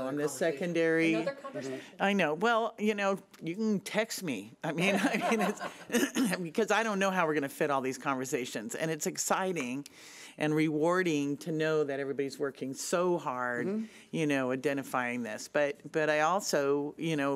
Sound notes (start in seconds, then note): 5.0 laughs